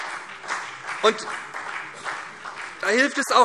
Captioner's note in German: Beifall SPD